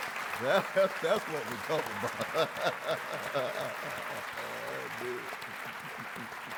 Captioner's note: laughs